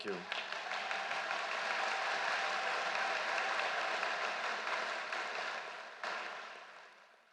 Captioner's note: applause